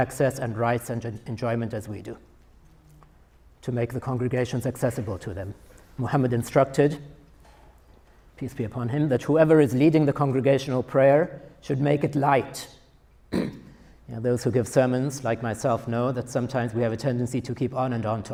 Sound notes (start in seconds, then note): 13.3 coughs